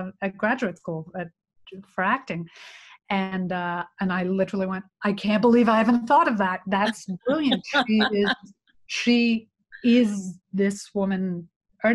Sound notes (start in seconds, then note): 7.3 laughs